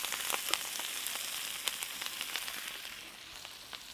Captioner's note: sizzling